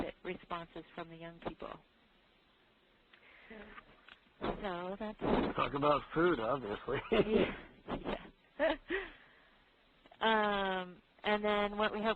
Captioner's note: laughs